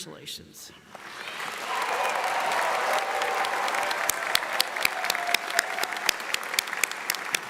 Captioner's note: audience applauds; audience cheers